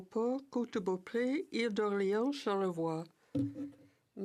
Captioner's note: speaking french